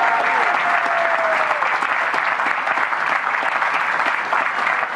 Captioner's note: applause